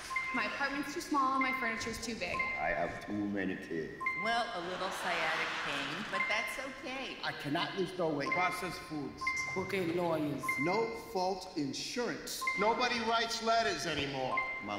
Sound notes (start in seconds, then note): 4.6 audience laughs